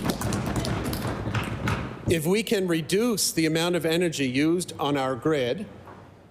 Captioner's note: applause